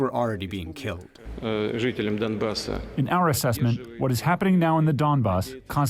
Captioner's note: through translator